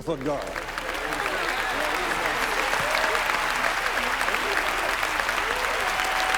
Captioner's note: crowd applauding; crowd cheering